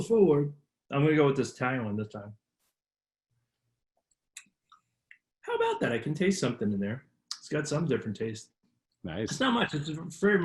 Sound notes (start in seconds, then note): 4.4 lips smacking